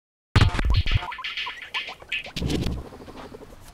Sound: guinea pig noises

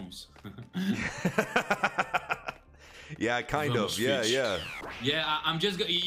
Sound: laughs; deep voice

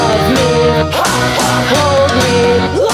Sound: hah hah

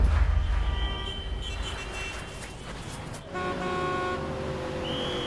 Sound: vehicles honking

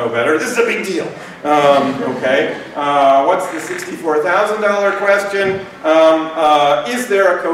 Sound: laughter

